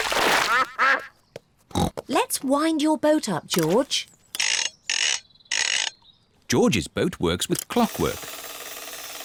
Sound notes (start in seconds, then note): 0.4 ducks quack; 1.7 snorts